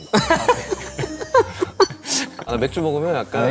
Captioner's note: haha